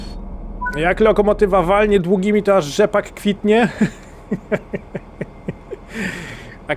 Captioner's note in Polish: śmiech